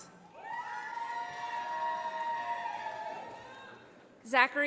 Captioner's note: audience applauding